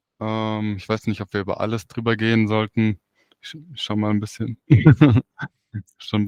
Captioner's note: laughing